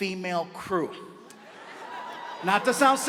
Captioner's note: audience laughs